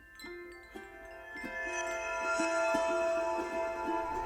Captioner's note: wind chimes chiming